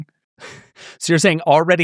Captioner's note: laughing